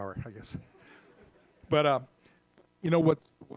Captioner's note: audience laughs